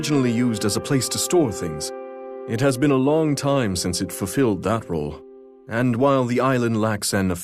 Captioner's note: voice note plays